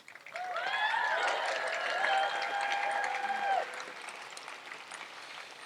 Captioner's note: audience applauds and cheers